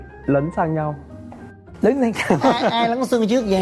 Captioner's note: laugh